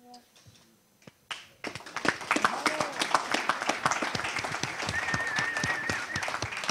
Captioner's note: audience applause